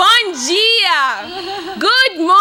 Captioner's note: speaking in Portuguese